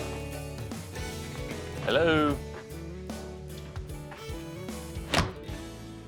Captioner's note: whistles; closes door